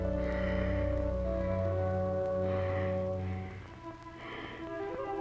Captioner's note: Gilman breathes heavily; suspenseful orchestral music